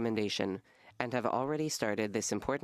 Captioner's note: speaking French